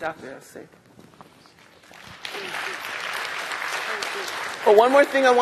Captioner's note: applause